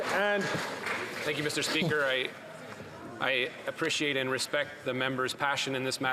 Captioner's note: some Applause